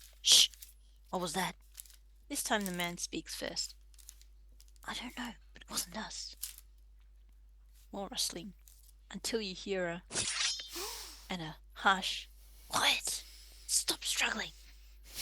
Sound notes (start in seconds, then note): 10.6 blade draws, a sharp inhale with a muffled but high-pitched gasp